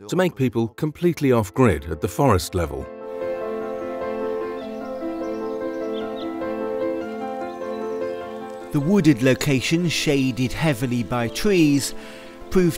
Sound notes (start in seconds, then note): 3.1 birds chirping; 3.7 gentle music